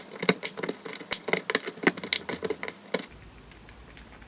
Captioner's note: crushing sound